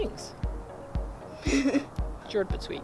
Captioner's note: laughing